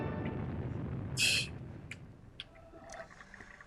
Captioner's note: scoffs